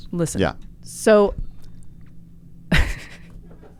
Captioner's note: laughs